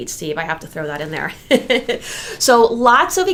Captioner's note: laughs